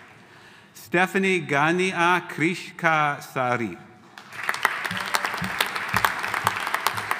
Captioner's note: audience applauding